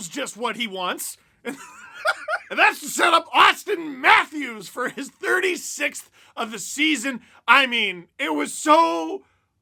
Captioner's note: laughter